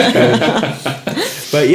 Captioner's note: laughing